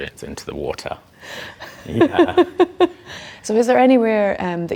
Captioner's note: laughs